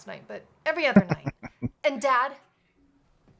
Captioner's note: chuckling